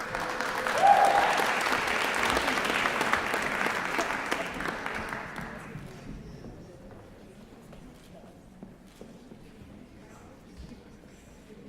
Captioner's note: applause